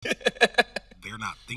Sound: host laughing

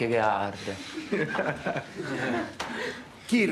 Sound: laughs

